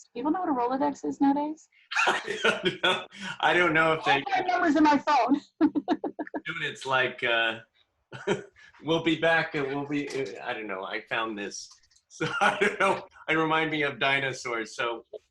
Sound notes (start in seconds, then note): 1.9 laughs